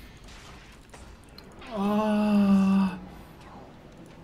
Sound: orgasm sounds

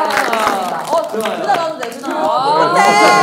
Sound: applause

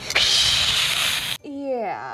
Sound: hissing

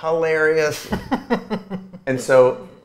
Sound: A.J. laughs

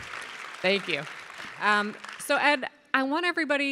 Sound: audience applauding

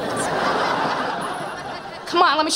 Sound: laughing

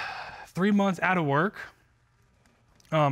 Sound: sighs

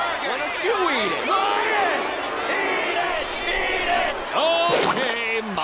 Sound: crowd

